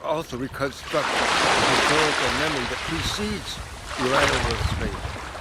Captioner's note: loud splashing